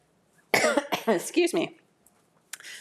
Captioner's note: coughs